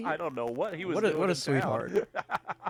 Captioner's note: laughing